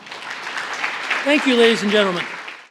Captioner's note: applause